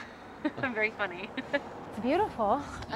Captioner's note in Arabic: يضحك